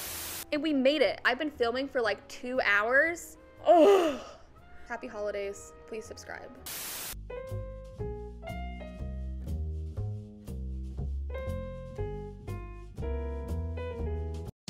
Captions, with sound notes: and we made it I've been filming for like 2 hours *sighs* happy holidays please subscribe